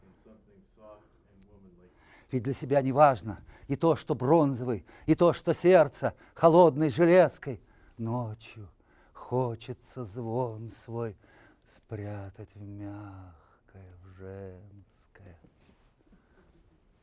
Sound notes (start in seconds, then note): 2.4 reciting poem in Russian